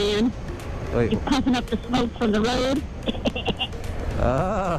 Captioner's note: coughing sounds